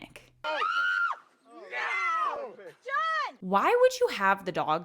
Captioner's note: screams